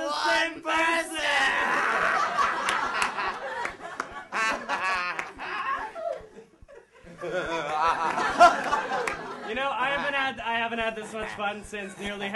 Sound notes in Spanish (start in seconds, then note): 4.2 Voldemort ríe